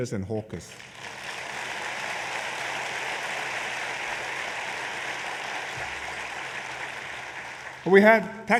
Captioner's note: applause